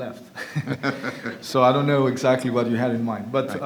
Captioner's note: laughter